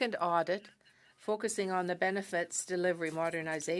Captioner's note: speaking in French